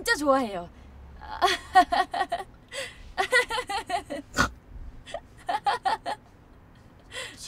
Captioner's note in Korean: 웃음 소리